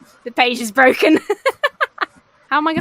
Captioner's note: laughs